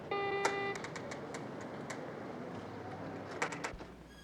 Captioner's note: door buzzes